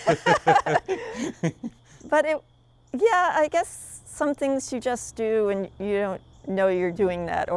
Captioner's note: both laughing